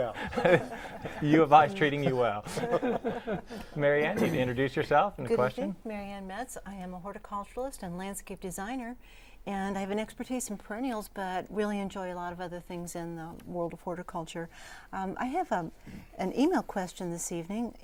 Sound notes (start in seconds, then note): 0.1 laughing; 2.4 laughing